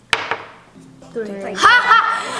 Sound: thud; laughs

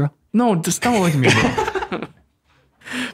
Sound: laughs

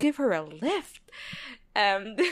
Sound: laughs

